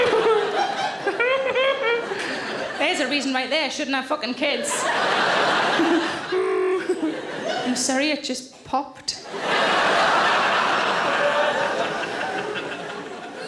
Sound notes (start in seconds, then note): 0.0 audience laughing; 4.7 Sarah grunts; 9.2 audience laughing